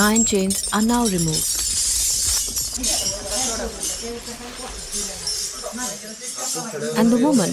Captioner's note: iron chains clanking